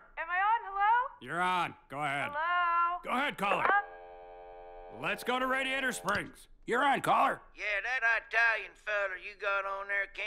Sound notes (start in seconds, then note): 3.6 phone dial tone